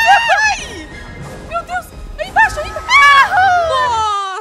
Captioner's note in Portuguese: grita